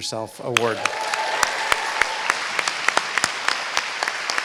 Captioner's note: applause